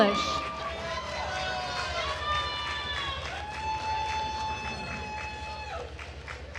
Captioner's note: attendees cheering and applauding